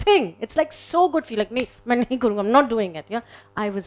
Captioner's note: speaks in foreign language